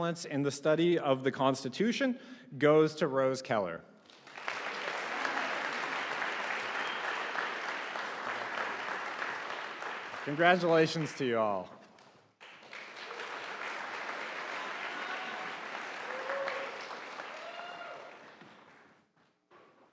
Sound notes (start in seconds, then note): 4.1 audience applauding